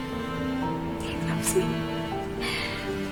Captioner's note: whispering